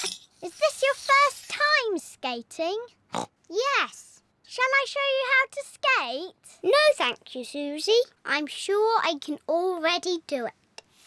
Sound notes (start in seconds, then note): 2.9 snorts